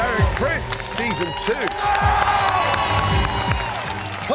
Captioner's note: shouts